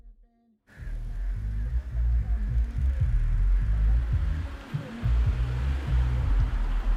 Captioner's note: rap music; car humming